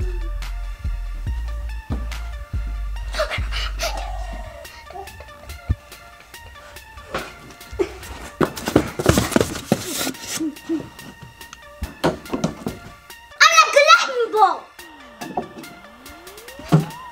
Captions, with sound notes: (gasps) (furious rustling) I'm going to collect my ball.